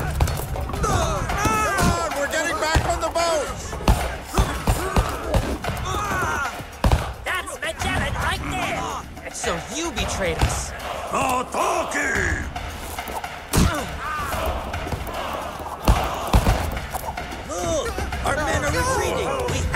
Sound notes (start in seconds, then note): 0.5 men groan